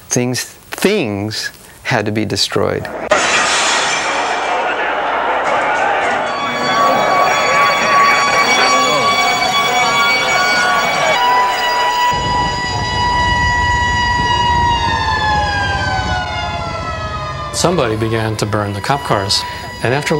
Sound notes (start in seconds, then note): 0.1 crowd shouting; 0.1 glass shattering; 5.1 sirens blaring